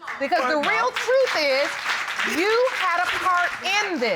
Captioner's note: audience applauding